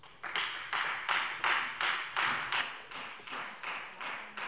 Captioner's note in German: Beifall Freie Demokraten